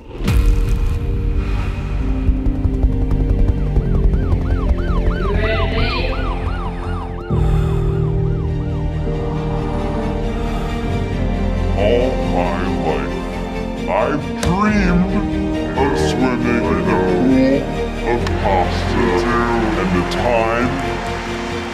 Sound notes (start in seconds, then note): 0.3 gentle, mysterious music; 3.7 sirens blaring; 5.6 disembodied Voice; 6.4 man breathing heavily; 9.3 inspirational music; 11.9 Distorted Keith Voice